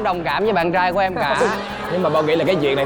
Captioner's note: laughing